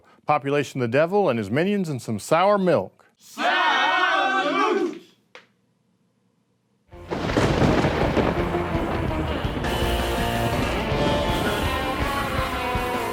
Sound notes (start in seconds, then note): 7.0 lightning strikes; 8.4 catchy rock music